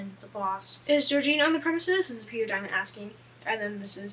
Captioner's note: none